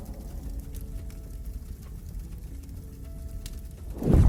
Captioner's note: torch blazing